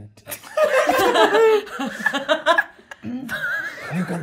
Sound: all laughing

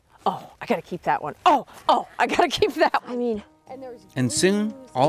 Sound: laughing

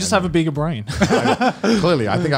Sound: laughs

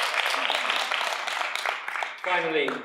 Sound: audience applauds

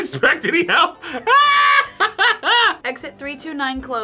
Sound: laughs

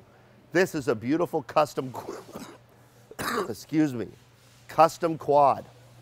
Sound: coughing

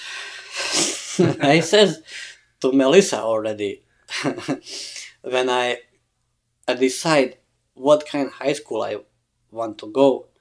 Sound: laughs

